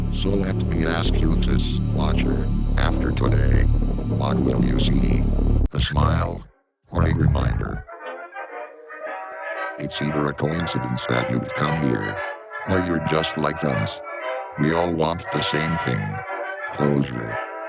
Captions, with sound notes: SOLETMEASKYOUTHISWATCHER. AFTERTODAY. WHATWILLYOUSEE? ASMILE? ORAREMINDER? [AUDIO TRILLING] ITSEITHERACOINCIDENCETHATYOUVECOMEHEREORYOUREJUSTLIKEUS. WEALLWANTTHESAMETHING. CLOSURE.